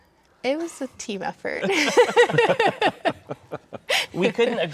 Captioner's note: all laughing